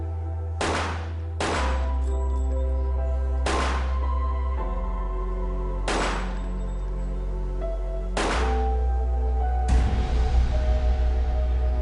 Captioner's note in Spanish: Disparos